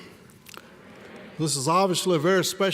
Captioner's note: crowd